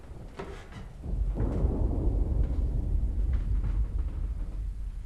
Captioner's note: thunder rolling